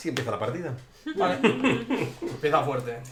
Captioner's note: laughs